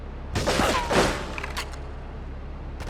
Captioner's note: gun firing